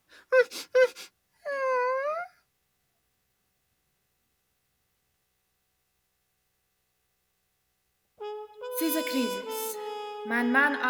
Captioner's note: Yiddish